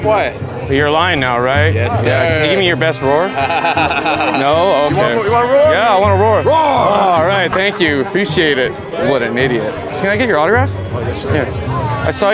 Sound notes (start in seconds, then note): 3.1 laughs; 6.8 roars